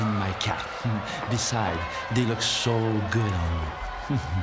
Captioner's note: laugh